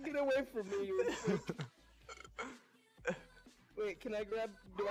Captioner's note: laughing